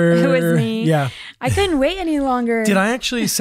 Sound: laughs

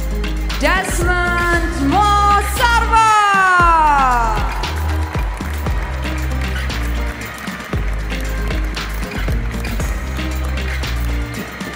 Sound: applause

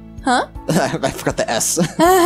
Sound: laughs

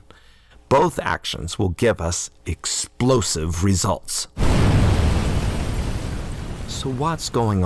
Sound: explosion sound

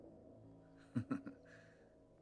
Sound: continues chuckling

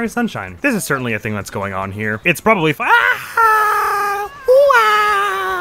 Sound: as Mario

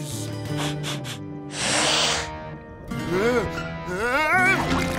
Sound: sniffing; grunting

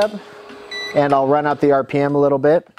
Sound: voltage meter beeps

